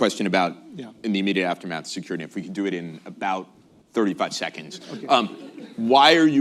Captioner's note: laughter